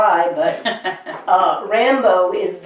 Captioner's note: laughs